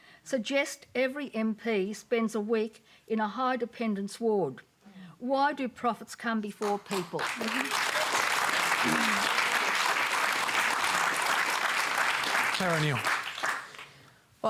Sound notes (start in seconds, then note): 6.6 applause